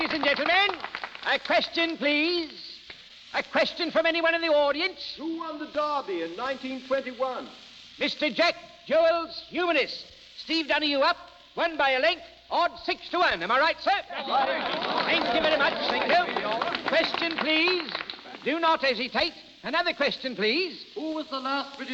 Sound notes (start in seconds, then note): 14.2 applause